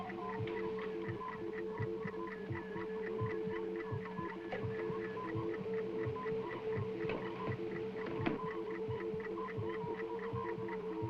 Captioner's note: whirring of electronics